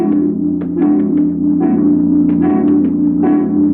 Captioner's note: tapping wall